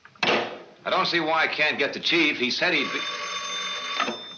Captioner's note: phone ringing